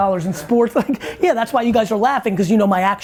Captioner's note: group laughs